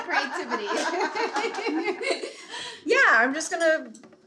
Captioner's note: laughing